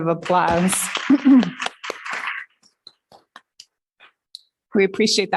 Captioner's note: applause